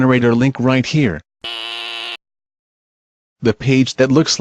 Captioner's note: buzz sounds